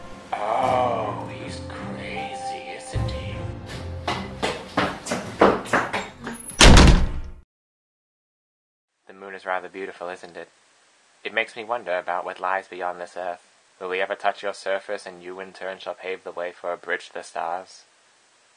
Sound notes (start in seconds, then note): 6.2 door slam